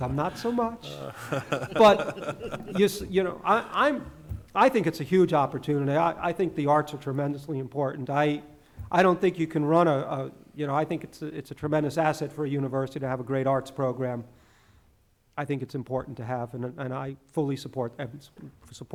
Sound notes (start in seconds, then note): 0.0 laughing